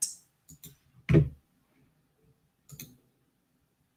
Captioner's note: mouse clicking